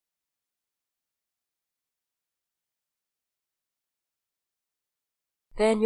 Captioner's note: silence